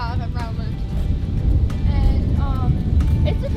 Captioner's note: wind blowing